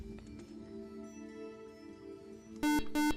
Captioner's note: beep